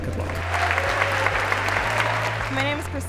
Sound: audience clapping

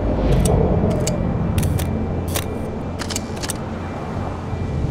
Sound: camera shutter clicking

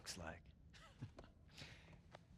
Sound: laughs

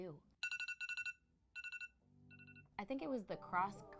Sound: alarm clock ringing

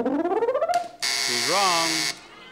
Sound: counter buzzes; machine beeps

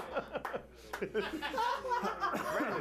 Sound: laughter

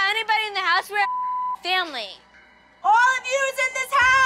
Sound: beep

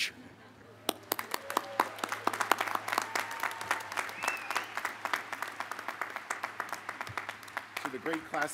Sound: applause

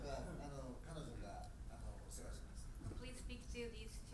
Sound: speaking in foreign language

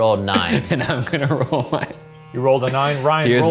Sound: laughing

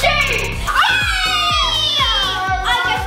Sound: cheering

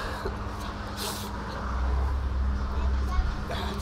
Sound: vehicles whirring

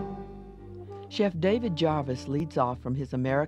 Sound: jazz theme; voiceover

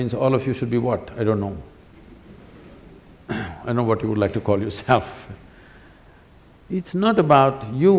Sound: laughs

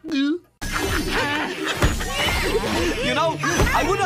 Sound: laughter

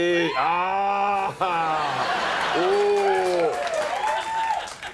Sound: audience laughing

